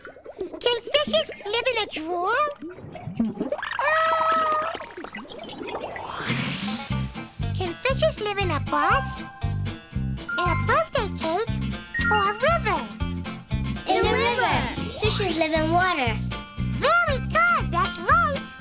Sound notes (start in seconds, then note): none